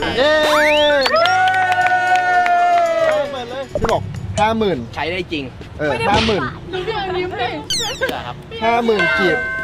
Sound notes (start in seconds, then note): 1.0 applauding; 7.7 chuckles